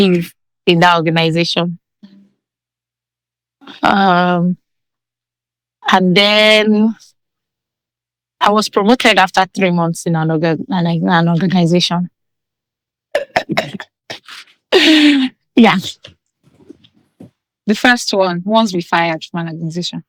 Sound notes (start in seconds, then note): 14.1 laughing